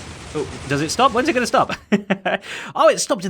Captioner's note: chuckles